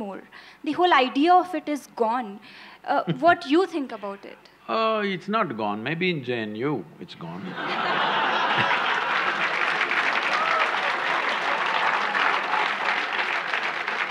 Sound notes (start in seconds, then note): 2.1 Sadhguru laughs; 7.4 laughter/Applause